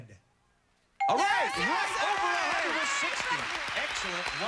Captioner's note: cheers and applause